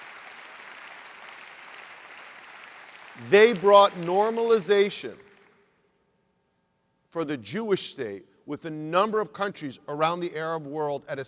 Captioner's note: applause